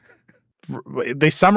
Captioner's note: laughs